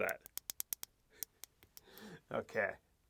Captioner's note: switch clicks